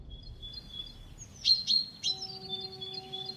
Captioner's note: birds chirping